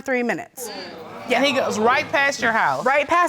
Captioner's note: audience exclaiming